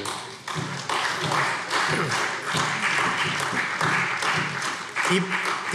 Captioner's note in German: Beifall SPD